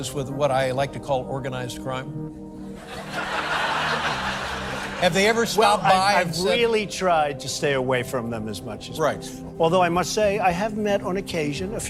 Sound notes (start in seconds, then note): 4.9 audience laughing